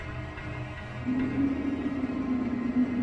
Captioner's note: fog swirling